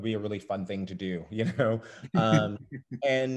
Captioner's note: laughs